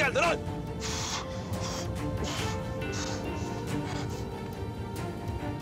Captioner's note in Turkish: Acıyla Nefes Alıp Veriyor